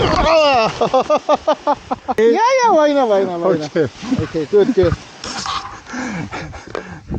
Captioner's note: laughs